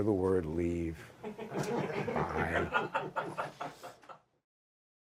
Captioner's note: laughter